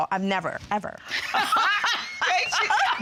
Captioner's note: laughing